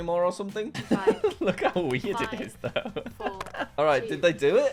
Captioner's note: laughs